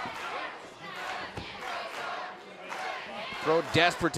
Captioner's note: fans chanting